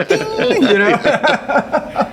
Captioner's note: laughing